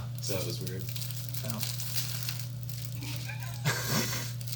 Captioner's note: wrapper crinkling; laughing